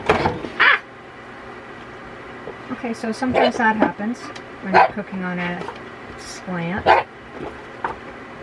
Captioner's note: bark